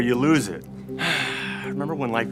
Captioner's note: sighing